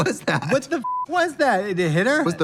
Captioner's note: beep